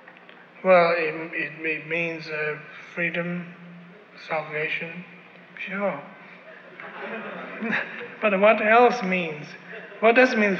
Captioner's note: laughter